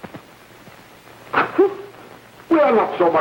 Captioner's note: sobbing